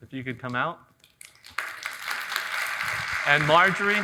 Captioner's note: audience applauding